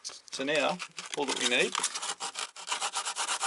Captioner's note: sanding